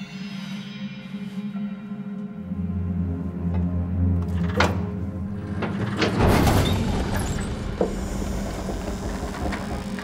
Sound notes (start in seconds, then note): 3.6 crank; 5.4 unlatching and heavy movement and squeaking